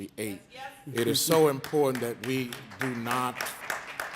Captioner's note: audience applauding